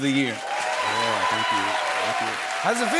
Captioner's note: cheers and applause